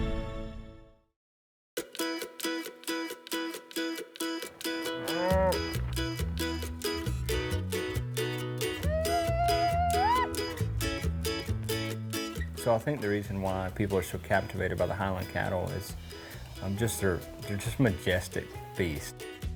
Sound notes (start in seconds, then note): 2.3 upbeat music; 4.9 cow mooing